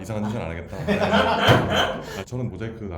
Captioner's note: haha